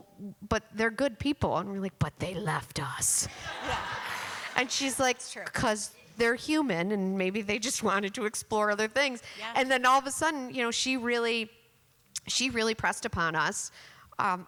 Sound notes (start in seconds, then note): 3.3 laughter